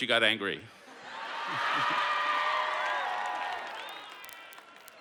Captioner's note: laughter